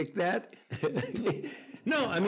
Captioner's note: Anthony chuckles